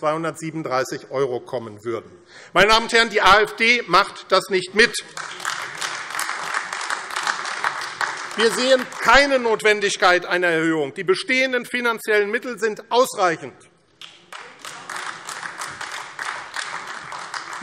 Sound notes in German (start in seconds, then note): 4.9 Beifall AfD; 14.0 Beifall AfD